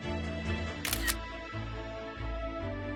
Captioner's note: camera shutter sound